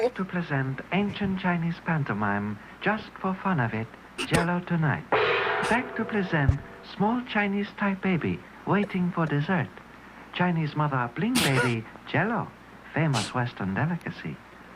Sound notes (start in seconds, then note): 5.1 gong